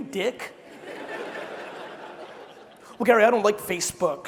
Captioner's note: crowd laughing